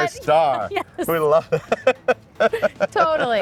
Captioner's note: laughing